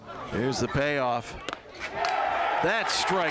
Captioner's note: crowd cheering